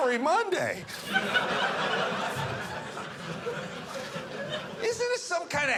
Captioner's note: audience laughing